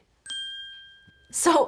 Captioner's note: ding